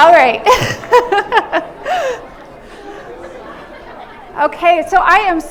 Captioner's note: laughs